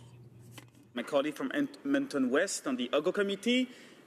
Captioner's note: speaking french